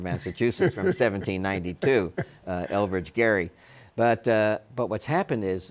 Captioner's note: Bob laughs